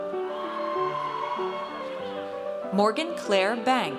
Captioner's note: audience cheers